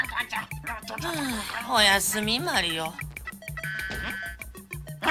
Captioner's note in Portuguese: suspiro